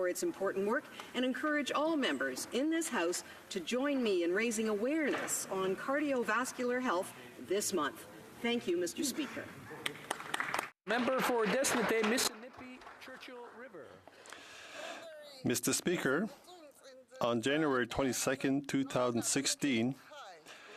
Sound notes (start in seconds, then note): 12.7 some Applause